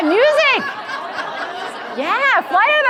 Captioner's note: audience laughing